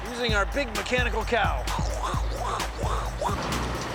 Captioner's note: imitating cow chewing